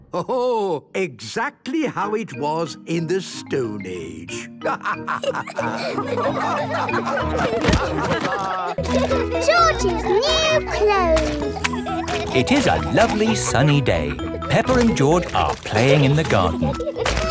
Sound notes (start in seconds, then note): 4.8 all laughing